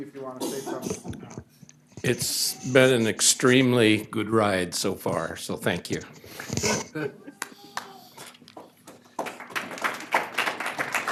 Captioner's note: applause